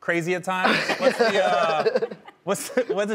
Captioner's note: laughing